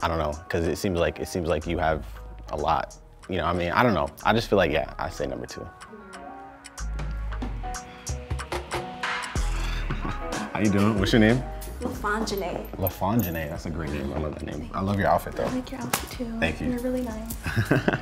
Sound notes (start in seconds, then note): 6.1 gentle music; 9.6 chuckles; 17.4 chuckles